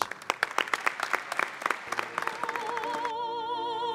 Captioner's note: applause